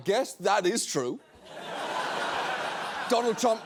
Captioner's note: studio audience laughing